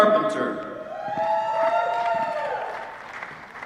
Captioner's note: applause